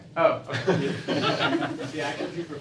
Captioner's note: laughter